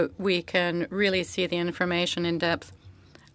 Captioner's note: speaking French